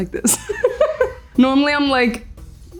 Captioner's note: laughs